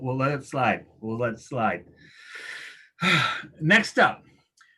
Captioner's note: sighs